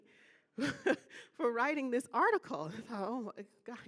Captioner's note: laughing